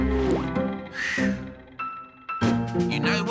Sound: Onion exhales

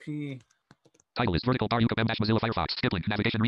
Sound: screen reader reads fast

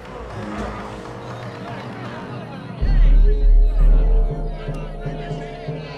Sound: chatter

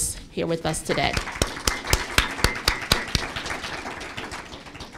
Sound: applause

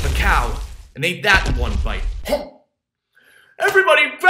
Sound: gulp

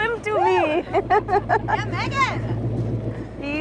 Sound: laughs

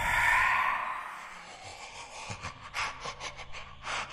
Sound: CODY breathes creepily

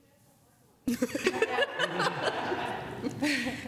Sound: laughter

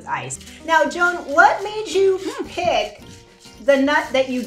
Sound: liquid sloshing

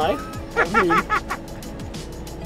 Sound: laughter

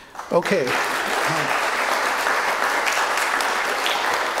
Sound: applause

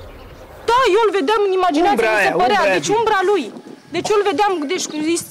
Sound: speaking in foreign language

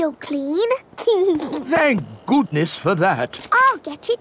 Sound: giggles

